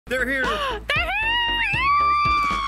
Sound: gasping; screaming

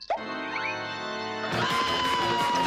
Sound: eerie organ music; screaming

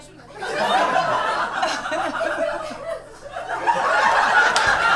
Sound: audience laughs

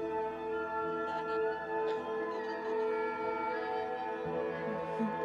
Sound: Brigit laughing

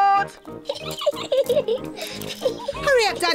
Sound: giggling

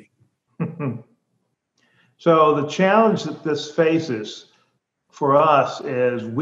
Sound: chuckles

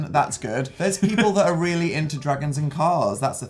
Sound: laughs

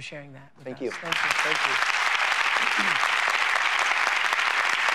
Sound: applause

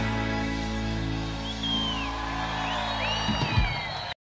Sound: audience applauds

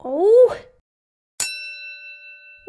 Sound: ding!

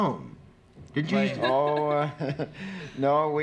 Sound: laughs

